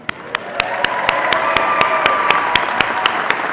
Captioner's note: applause